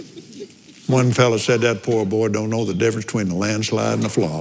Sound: laughs

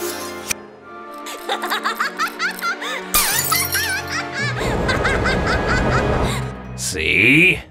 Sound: laughter

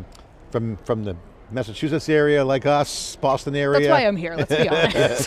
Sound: laughs

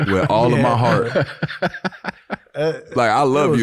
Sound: Daniel laughing

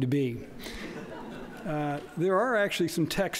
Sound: laughter

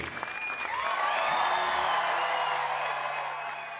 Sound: audience cheering

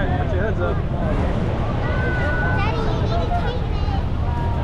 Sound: crowd cheering

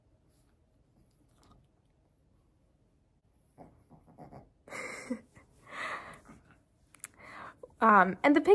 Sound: laughs; puppy snorts of contentment

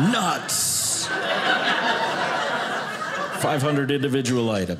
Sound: audience laughing

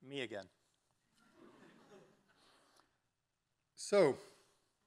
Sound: audience laughing

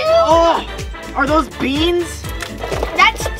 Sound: beans splattering

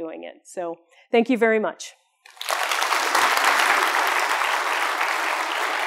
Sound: applause

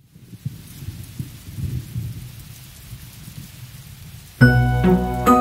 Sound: rain sounds

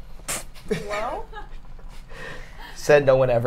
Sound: laughs

